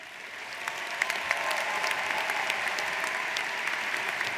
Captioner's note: audience applauds